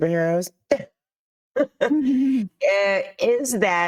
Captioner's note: chuckling